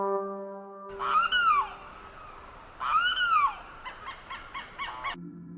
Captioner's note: jungle sounds